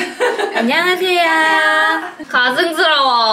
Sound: laughing

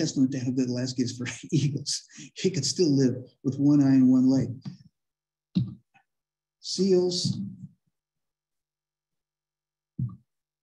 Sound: laughter

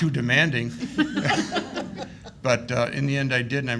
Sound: laughing

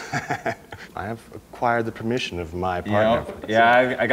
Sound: laughing

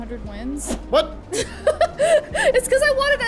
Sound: laughs

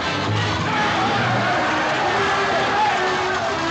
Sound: shouting

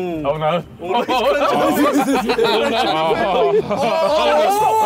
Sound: laughing

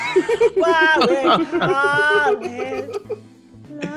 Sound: laugh

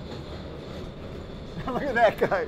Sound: chuckling

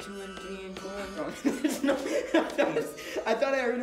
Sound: laughing

